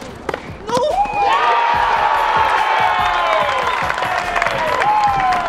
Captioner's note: cheering